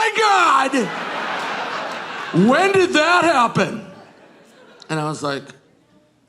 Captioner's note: audience laughing